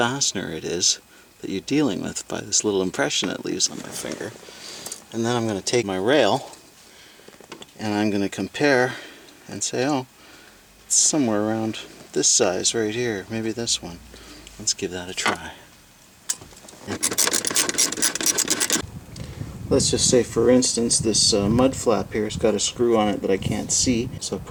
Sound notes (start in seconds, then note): 16.8 ratcheting